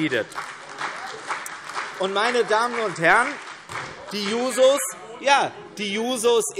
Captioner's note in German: Beifall CDU und vereinzelt AfD - Zuruf SPD und DIE LINKE